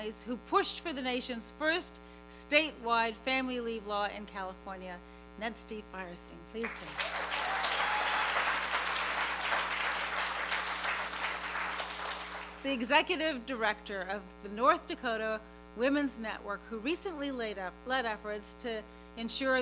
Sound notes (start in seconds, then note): 6.6 applause; 6.7 cheering